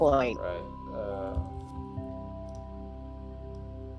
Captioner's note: mouse clicking